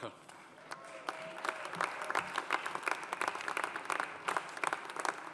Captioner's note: audience applauding